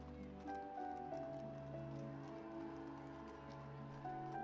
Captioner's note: cameras clicking